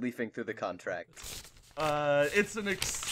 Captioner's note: papers rustling